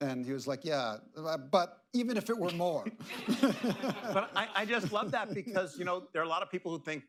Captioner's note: laughter